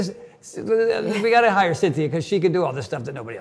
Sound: Cynthia chuckles

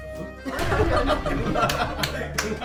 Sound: laughing

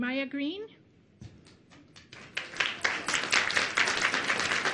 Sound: applause

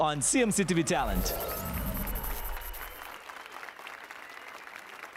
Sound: applause and cheers

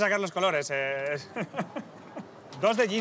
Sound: laughs

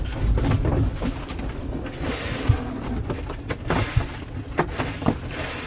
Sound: cords slide and boat clicks

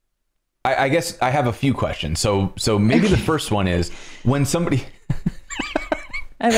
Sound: laughter

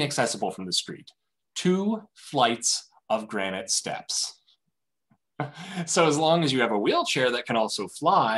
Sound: laughter

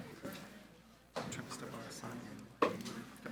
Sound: speaking faintly

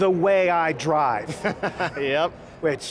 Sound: laughs

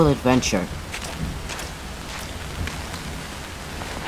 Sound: footsteps

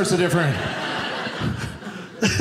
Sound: audience laughing

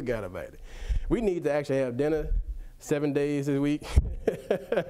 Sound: laughs

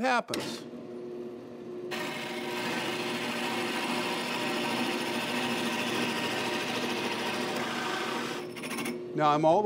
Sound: drill press revving

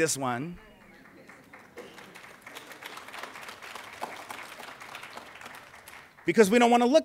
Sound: clapping

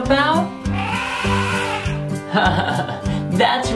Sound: animal sound: elephant

